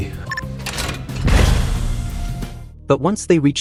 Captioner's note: crack